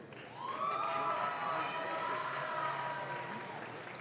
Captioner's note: audience claps